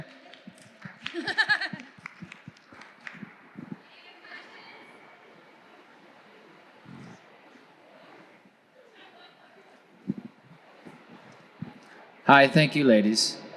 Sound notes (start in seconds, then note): 0.0 distant clapping; 6.0 distant chattering